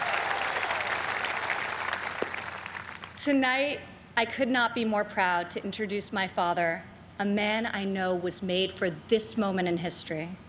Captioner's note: cheers and applause